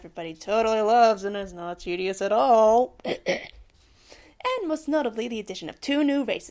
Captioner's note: cough cough